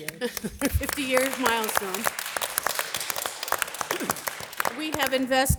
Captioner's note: audience applause